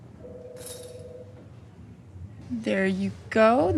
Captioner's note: phone rings